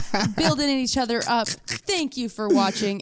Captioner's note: laughs